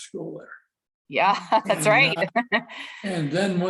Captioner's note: laughter